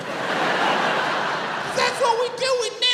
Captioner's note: crowd laughs